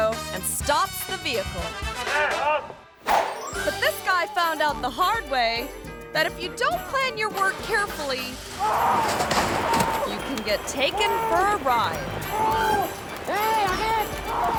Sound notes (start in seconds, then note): 2.2 driver yells; 3.4 screen whooshes; 8.1 engine whirring; 8.1 resident yelling; 12.2 resident yelling